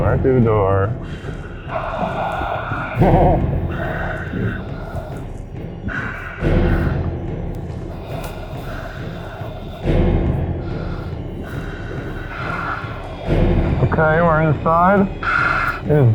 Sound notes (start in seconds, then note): 1.2 tense music continues; 3.8 breathing heavily